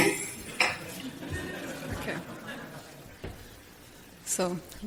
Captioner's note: audience laughter